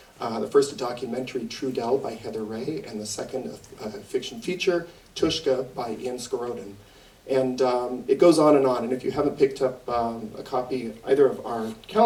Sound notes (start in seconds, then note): none